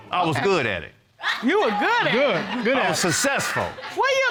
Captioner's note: audience exclaims